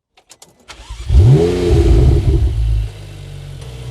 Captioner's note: listen to this V8 engine sound